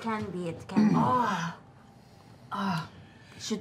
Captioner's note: groans